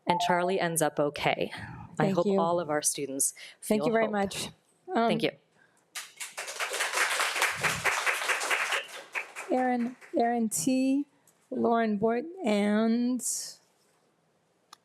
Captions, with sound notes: And Charlie ends up okay. - Thank you. - I hope all of our students feel- - Thank you very much. - Thank you. (audience claps) - Erin T, Lauren Boyd and Riley Shea, in that order.